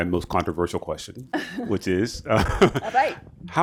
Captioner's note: laughs